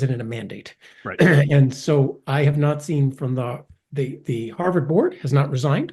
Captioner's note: cough